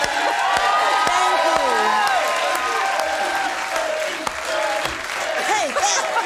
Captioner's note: audience cheering; crowd